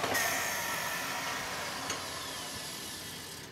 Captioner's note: the whirring of the machine fades away